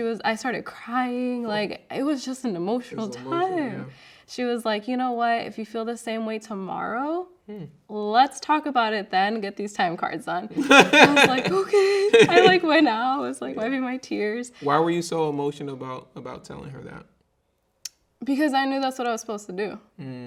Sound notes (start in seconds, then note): 10.6 laughing